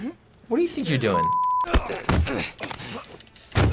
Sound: both grunting

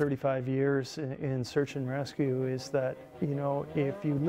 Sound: voiceover

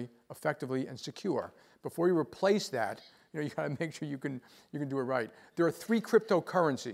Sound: laugh

